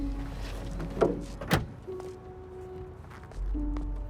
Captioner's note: trunk closes